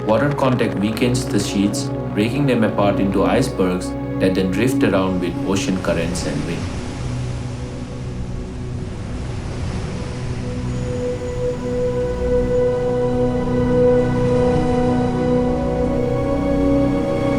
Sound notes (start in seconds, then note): 9.9 ocean waves crashing